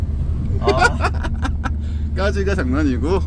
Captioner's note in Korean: 찐 행복한 웃음